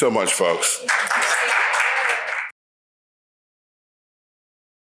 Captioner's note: audience applauds